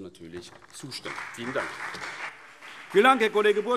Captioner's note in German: Beifall BÜNDNIS 90/DIE GRÜNEN